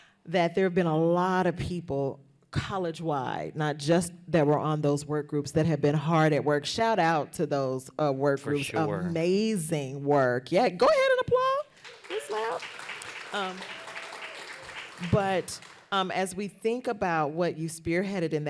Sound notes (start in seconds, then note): 11.7 applause